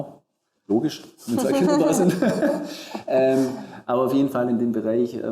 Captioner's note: laughs